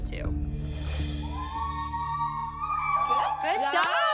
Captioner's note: girls whooping